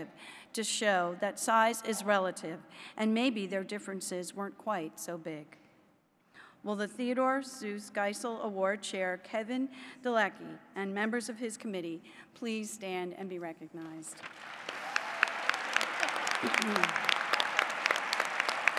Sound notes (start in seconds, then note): 14.0 applause